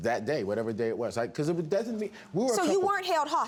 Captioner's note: stutters